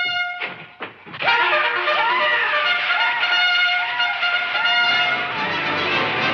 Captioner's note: trumpet blares; indians hollering; thrilling music